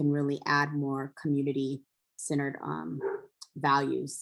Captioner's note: dog barking